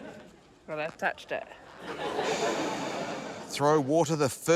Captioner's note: laughter